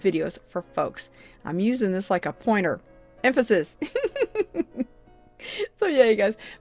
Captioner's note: chuckles